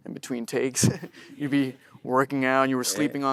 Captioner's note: chuckles